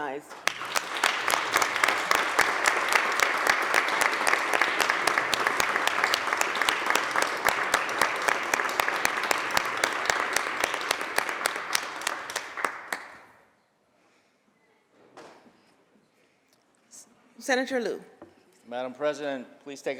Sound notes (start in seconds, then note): 1.8 applause